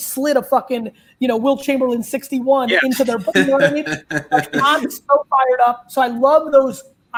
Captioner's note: laughs